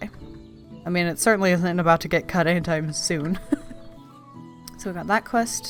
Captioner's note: laughs